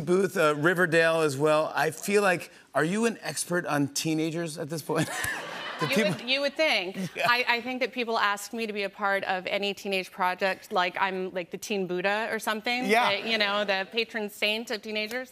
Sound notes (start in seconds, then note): 4.9 laughter